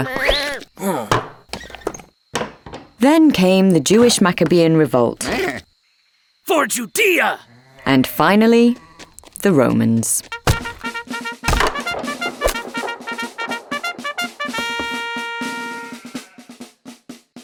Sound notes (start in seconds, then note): 0.1 sheep bleating; 0.1 wood signs clattering; 5.2 sheep bleating; 10.4 trumpet fanfare; 11.4 wood signs clattering; 12.7 snare drums beating